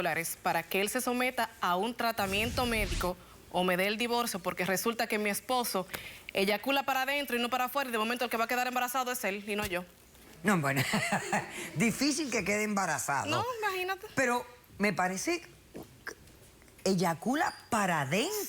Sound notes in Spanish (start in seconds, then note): 10.7 risas